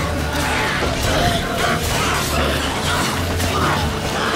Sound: water hag groaning

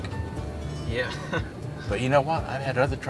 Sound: laughs

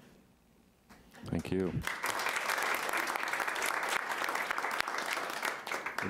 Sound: audience applauding

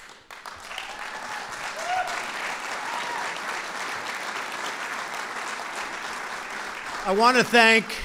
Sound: applause

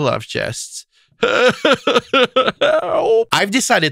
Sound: cries

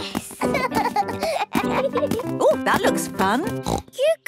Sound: both laugh

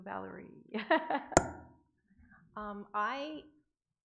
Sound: laughing

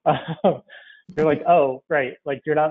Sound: laughs

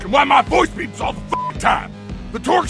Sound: beep

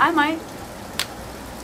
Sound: flashlight thuds

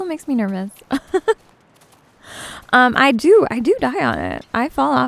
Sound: giggles

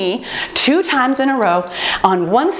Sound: timer beeps

